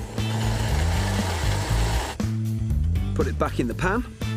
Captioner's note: blender whirring